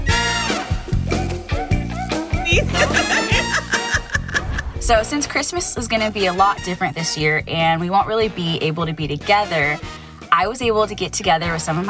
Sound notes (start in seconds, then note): 0.2 lively music; 2.0 laughing